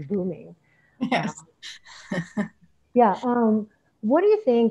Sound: chuckling

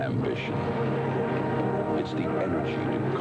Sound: engines

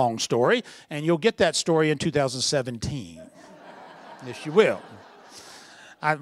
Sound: laughter

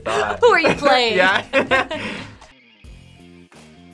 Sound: both laugh

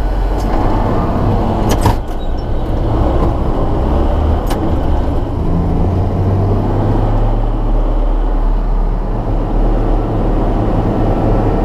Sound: engine noise

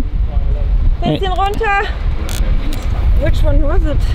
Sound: speaking foreign language

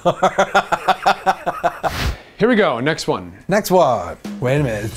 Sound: laughs

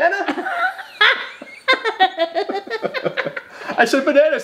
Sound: both laughing

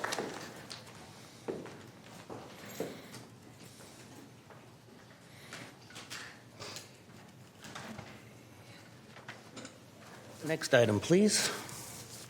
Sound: applause

